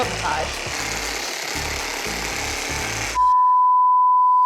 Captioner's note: whirring sound